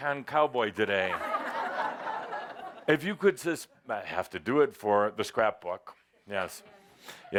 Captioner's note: more laughter as he poses for the camera